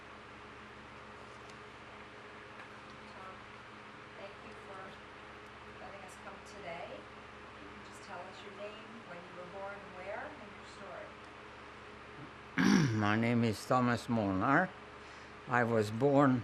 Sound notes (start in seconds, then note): 12.6 clears throat